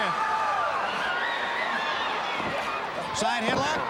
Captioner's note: crowd cheering